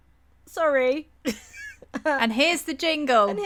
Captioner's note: laughter